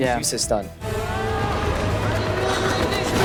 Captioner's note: yelling